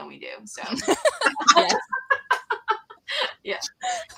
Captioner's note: laughter